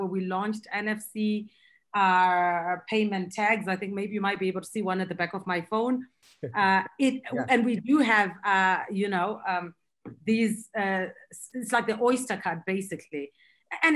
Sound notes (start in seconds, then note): 6.4 laughing